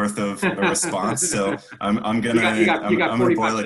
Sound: laughs

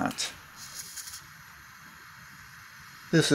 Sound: torch sounds

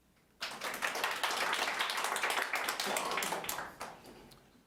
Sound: audience applauding

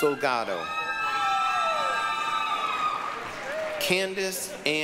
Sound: applause, cheering

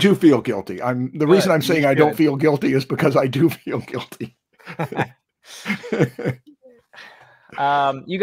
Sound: laughs

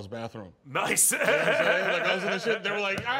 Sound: laughs

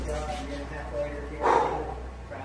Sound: door shuts

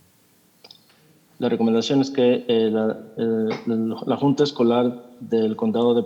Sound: translator speaking in Spanish

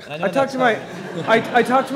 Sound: laughter

